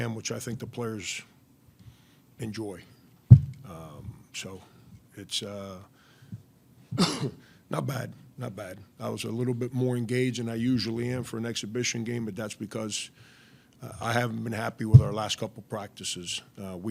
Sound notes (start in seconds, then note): 6.9 coughing